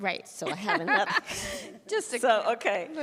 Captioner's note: laughs